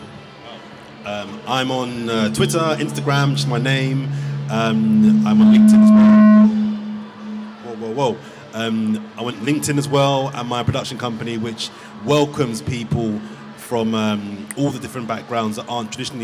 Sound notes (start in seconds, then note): 4.3 mic feedback